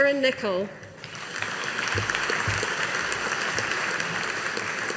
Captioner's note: audience applauding